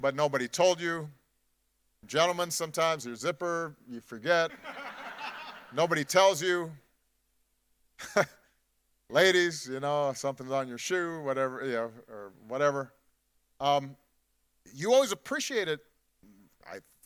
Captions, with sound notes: but nobody told you. Gentlemen sometimes, your zipper, you forget. (audience laughing) Nobody tells you. (chuckles) Ladies, you know, something's on your show, whatever. You always appreciate it, I hope,